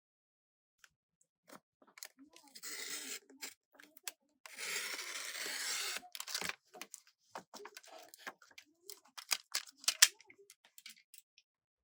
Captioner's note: cutting paper